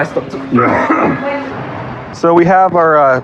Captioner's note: cououghs